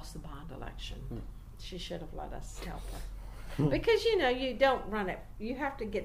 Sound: interviewers chuckle under their breath

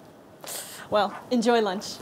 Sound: winces

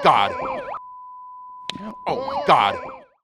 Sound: slapping

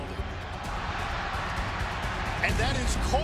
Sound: crowd cheering

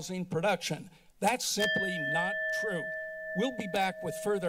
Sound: alarm sound

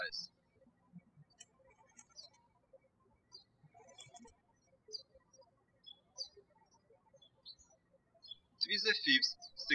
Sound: birds chirping

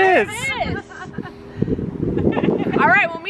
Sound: laughing

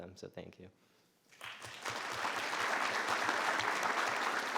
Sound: all clapping

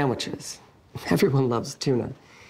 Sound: none

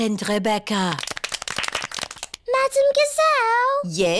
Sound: all clap

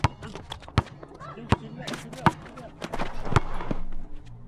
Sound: ball bouncing

